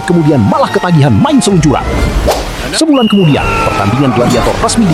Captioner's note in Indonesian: berteriak